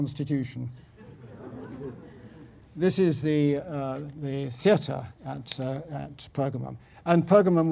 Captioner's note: laugh